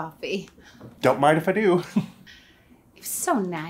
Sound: chuckles

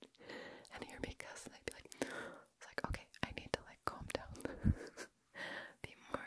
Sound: gasp

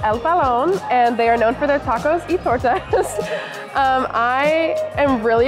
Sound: laughs

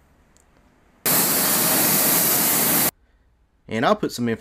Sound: spray gun hisses

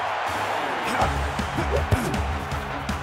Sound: grunts

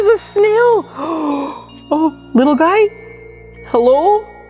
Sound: gasps

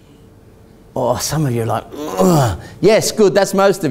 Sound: groans

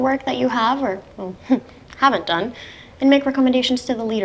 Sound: chuckles

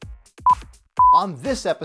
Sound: beeps

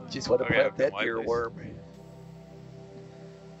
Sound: chattering; calming music playing

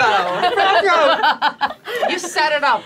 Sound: all laughing

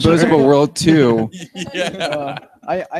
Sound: laughs

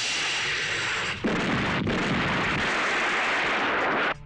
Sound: explosion

